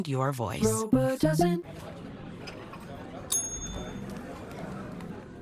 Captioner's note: ding